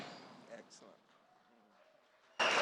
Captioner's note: applause, music